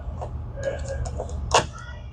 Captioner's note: hammer banging